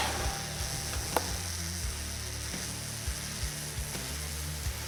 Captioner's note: tool whirring